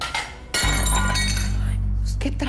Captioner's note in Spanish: Estruendo